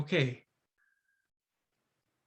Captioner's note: silence